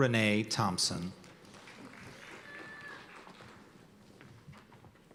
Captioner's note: cheers and applause